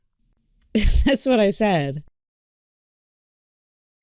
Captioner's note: scoffs; painfully long pause